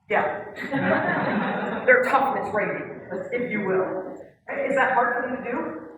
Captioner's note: laugh